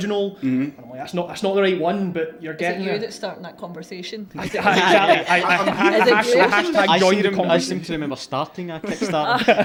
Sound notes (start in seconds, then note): 4.4 laughter